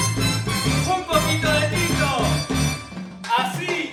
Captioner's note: speaking in Spanish